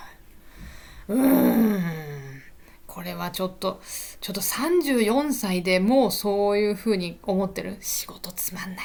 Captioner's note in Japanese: うめき声